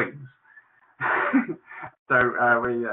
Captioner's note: laughs